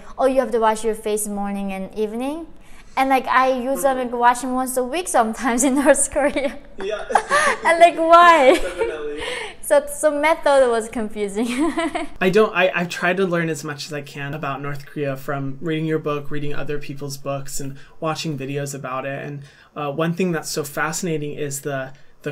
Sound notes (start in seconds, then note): 6.7 chuckles